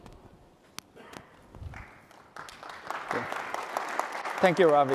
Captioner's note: applause